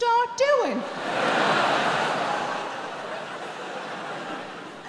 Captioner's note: audience laughing